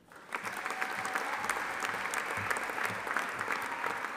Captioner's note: audience applauding